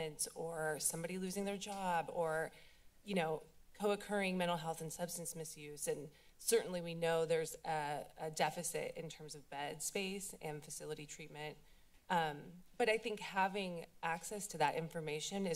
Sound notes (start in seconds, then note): none